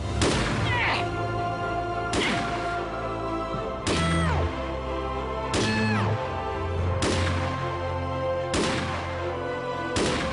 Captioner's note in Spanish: Disparos; Quejidos